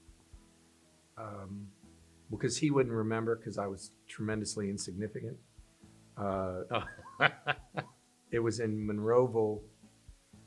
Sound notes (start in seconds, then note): 6.6 laughs